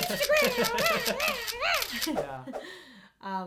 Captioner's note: camera shutters, laughing